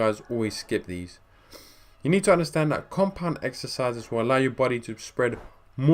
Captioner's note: sniff